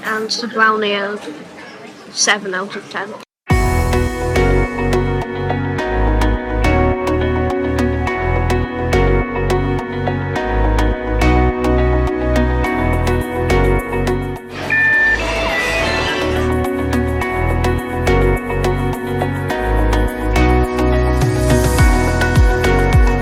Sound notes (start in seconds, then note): 3.7 bouncy upbeat music; 13.1 bouncy upbeat music; 14.6 machine chimes; 15.6 bouncy upbeat music